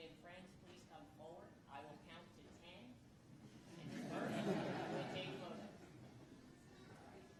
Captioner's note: laughter